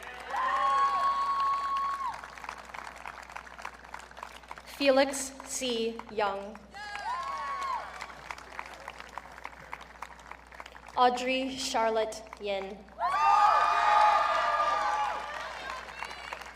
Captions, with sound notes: (audience cheering) Felix C. Yeung. (audience cheering) Audrey Charlotte Yin. (audience cheering)